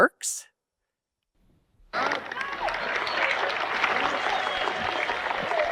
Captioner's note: audience clapping